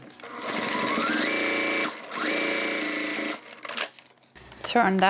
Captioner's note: sewing machine whirring